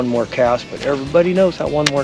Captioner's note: rod whipping; reel spinning